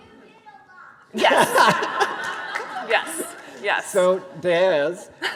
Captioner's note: all laughing